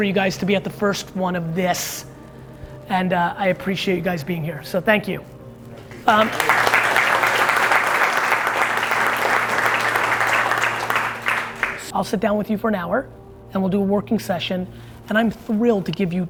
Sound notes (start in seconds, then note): 5.7 applause